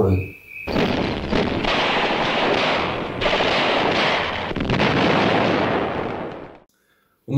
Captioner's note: sound of artillery